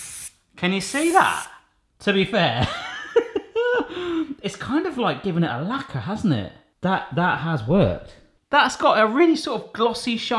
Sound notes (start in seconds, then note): 2.6 chuckles